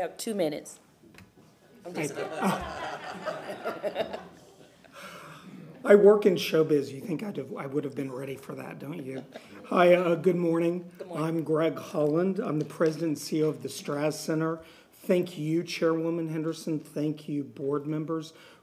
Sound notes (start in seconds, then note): 5.5 laughter